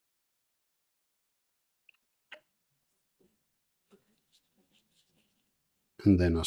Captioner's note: silence